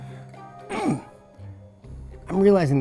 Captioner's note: man grunts